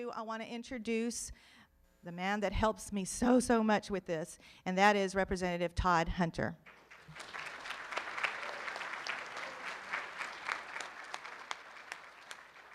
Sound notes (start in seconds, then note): 6.6 room applauds